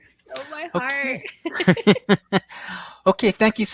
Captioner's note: laughs